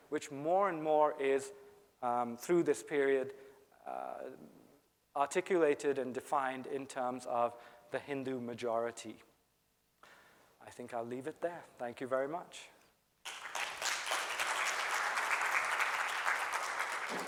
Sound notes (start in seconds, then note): 13.2 audience applauding